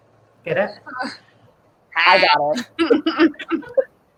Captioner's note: chuckles